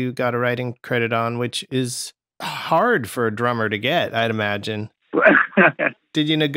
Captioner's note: laughter